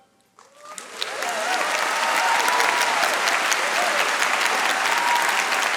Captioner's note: audience applauding and cheering